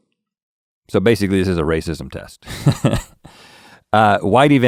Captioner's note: chuckles